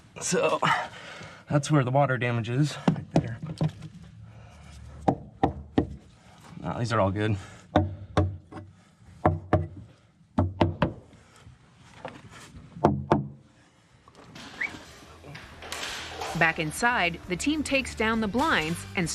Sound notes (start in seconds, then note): 5.2 tapping; 7.9 tapping; 14.5 whistles